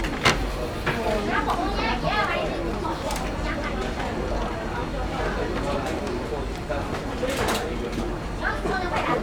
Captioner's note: speaking in Mandarin